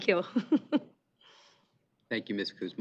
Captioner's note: chuckling